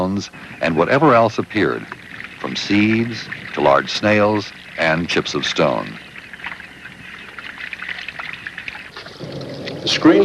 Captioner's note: running water